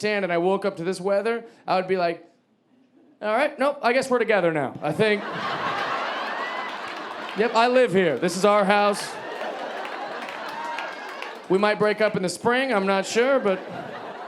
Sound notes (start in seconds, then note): 5.5 audience laughing